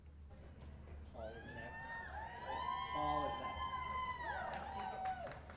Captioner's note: crowd cheering